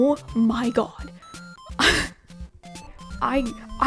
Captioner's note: laughs